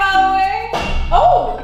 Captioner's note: banging noise